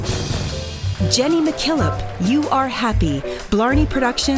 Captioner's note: drumroll; applause